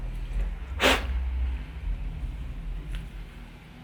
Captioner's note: blows